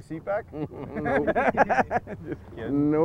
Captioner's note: laughter